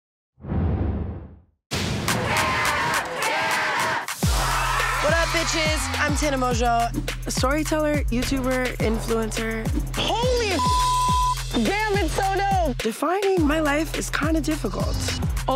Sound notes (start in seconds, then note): 2.0 crowd; 10.5 beep